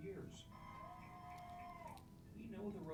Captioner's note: students cheering